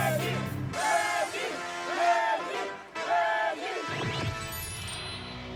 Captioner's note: crowd cheering